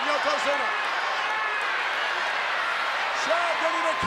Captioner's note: audience cheers